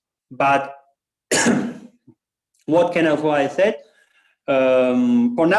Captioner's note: coughs